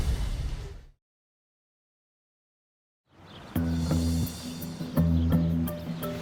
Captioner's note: slams door